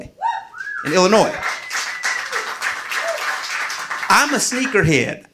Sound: audience applauding

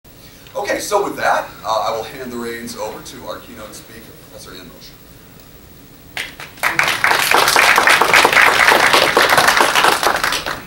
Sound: appluase

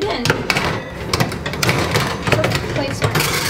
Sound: metal clanging

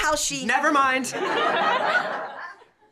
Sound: laughter

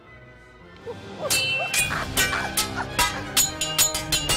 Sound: clanking

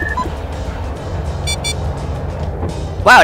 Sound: radiation filling the room sound cue, 5 seconds later

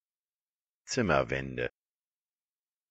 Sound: fast Pronunciation

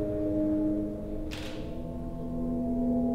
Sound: shutter clicks

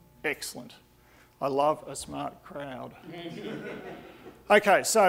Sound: audience laughing

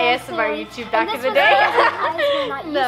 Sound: laughs

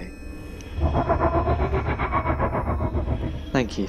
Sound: The Tardis makes a noise of sympathy

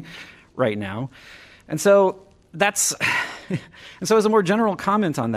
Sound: laughter

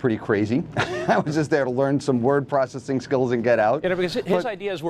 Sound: laughs

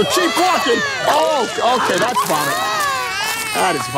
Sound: baby puking

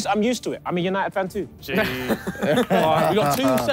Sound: clapping

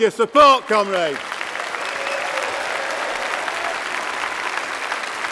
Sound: applause

